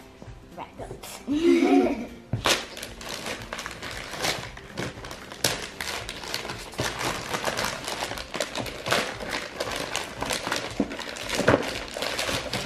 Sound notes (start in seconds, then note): 1.3 kids laugh together; 2.9 paper ripping